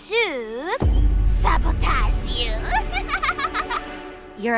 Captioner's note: laughs